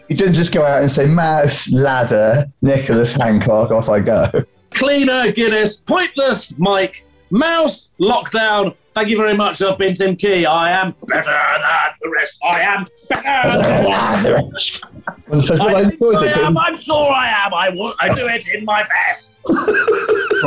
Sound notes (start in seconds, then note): 10.7 deep voice; 15.3 gruffly; 19.4 laughing